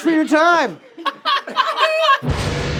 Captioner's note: all laughing; ominous music